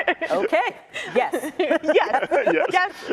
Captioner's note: laughter